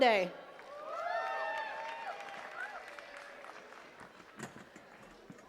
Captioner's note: attendees cheering and clapping